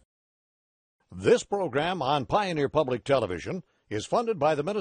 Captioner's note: voiceover